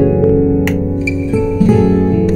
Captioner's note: Button clicks